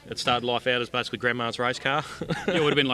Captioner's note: laughs